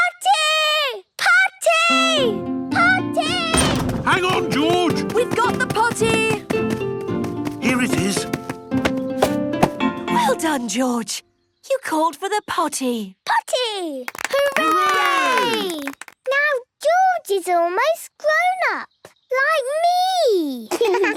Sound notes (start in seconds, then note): 14.0 cheering, clapping